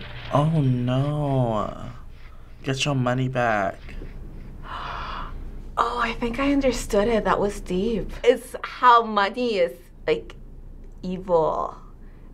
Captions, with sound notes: - Oh no. Get your money back. - (gasps) Oh, I think I understood it. That was deep. It's how money is evil